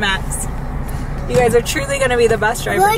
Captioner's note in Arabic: none